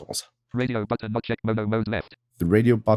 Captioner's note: automated voice